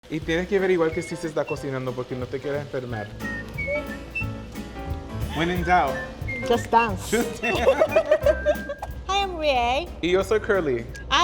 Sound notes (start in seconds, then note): 0.3 speaking Spanish; 3.4 playful music; 3.4 whistling; 7.2 both laughing; 10.1 speaking Spanish